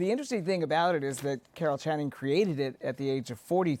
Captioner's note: none